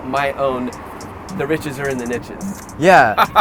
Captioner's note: laughs